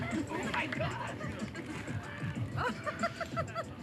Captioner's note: laughter